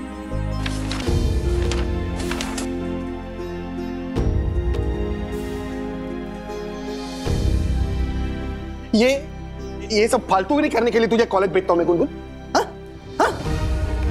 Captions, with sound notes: [page flaps] Do I send you to college so you could do this nonsense, Gungun? Yeah? Tell me!